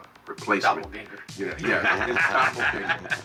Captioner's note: laughs